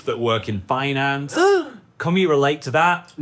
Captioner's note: gasping